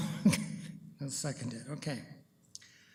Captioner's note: chuckles